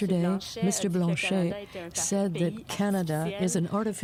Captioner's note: speaking French